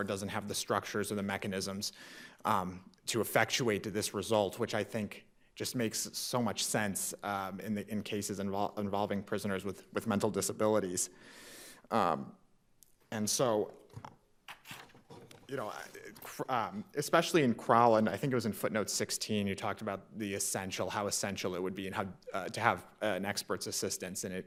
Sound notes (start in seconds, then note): 13.9 podium rattling; 14.5 papers rustling